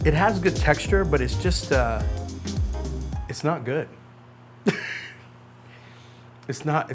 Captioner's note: chuckles